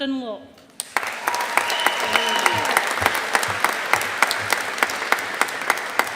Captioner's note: audience applauding